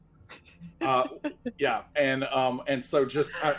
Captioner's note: chuckles